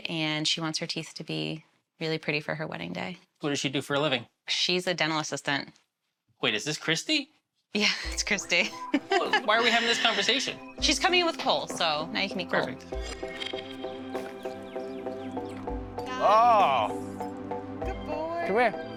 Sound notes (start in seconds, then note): 8.6 laughs; 13.6 cheery orchestra music